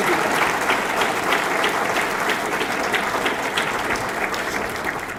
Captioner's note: audience clapping